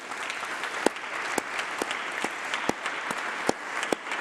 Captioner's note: applause